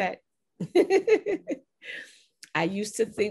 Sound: laughs

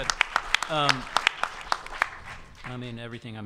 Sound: audience applause

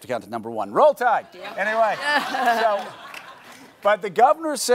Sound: audience laughing

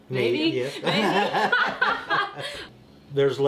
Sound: laughter

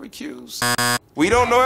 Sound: buzzer buzzing

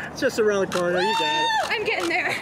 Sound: cheers

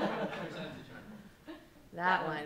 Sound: laughing; man speaks off mic

